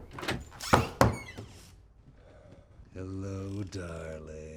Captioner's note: door creaks